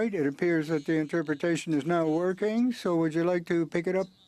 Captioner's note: speaking french